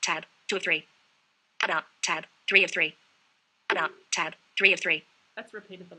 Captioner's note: VoiceOver announcing content